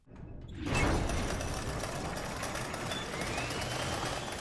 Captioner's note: gears spinning